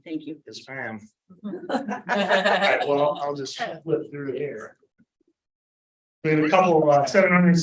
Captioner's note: laughter